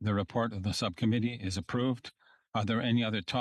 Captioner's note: speaking French